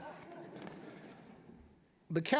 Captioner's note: audience chuckling